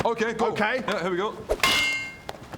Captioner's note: clang!